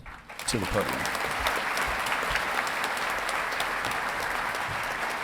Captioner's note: audience clapping